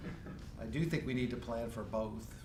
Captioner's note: laughing